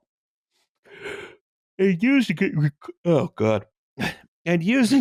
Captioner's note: yaawning